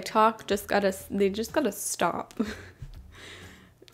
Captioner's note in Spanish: ríe